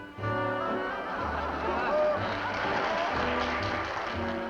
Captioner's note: laughter